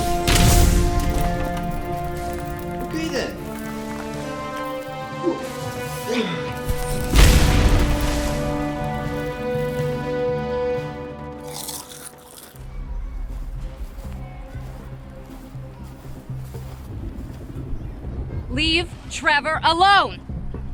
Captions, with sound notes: (explosion) Okay then. (dramatic music) (explosion) (chips crunching) (soft dramatic music) - Leave Trevor alone!